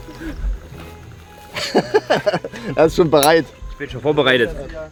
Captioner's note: laughs